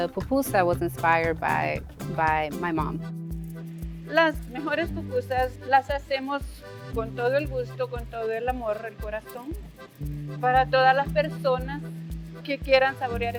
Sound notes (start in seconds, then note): 4.2 woman speaks Spanish